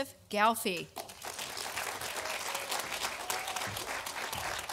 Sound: audience applauding

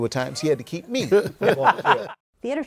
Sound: laughter

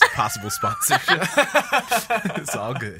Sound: laughs

